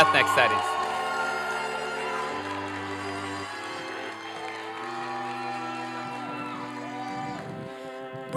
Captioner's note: applause and cheering